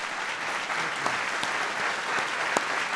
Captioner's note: applause